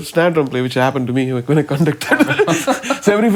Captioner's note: laughing